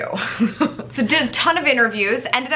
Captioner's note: laughs nervously